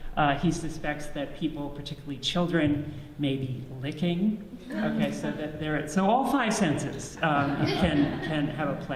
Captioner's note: audience laughs